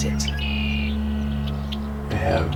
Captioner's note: songbird